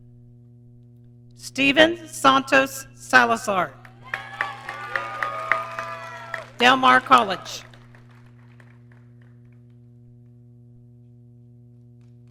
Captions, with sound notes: Steven Santos Salazar. (audience cheering) Del Mar College.